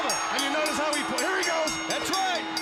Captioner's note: bell ringing